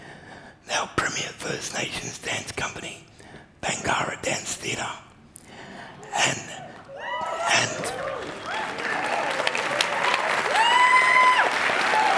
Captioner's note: applause